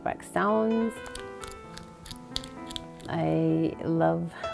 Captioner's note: soft crunching